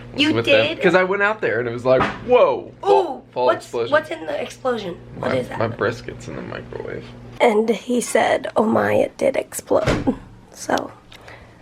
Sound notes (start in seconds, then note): 1.9 loud popping noise